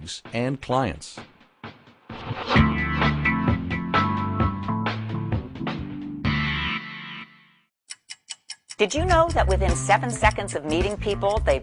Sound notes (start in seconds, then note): 7.8 clock ticking